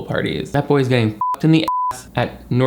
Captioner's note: beep